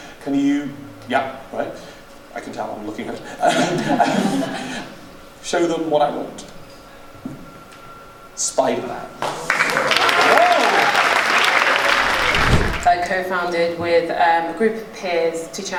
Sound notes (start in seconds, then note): 4.7 laughing; 9.2 applause and oohs; 11.9 air whooshing